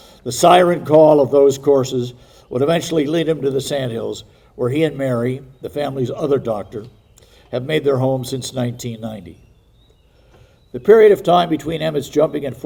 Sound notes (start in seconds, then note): none